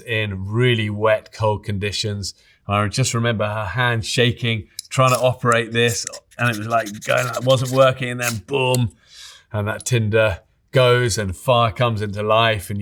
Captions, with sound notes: in really wet, cold conditions. I just remember her hands shaking, trying to operate this, and it was, like, going... [fire steel scraping] It wasn't working. And then boom. [fire steel clicking] And that tinder, goes and fire comes into life